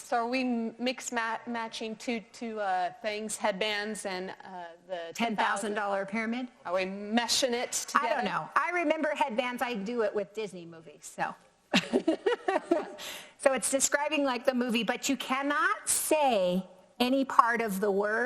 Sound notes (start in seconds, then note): 11.8 laughs